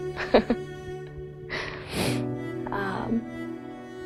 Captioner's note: laughing